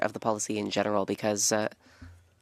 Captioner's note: speaking French